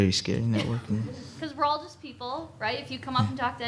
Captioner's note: audience laughing